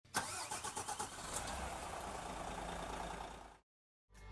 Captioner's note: engine starting